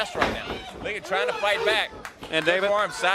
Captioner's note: crowd cheering